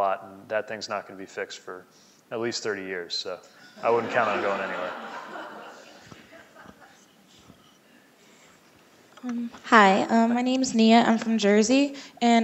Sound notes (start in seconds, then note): 3.6 laughing